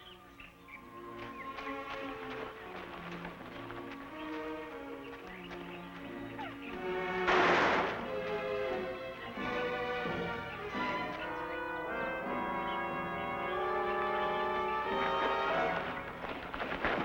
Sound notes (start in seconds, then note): 7.2 gun firing